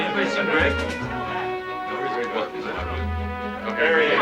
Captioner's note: chattering